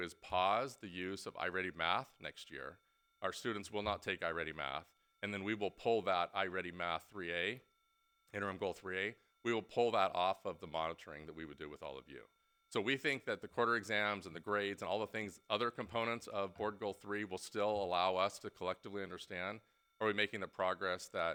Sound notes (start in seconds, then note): none